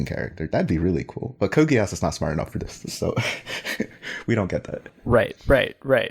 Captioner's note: laughs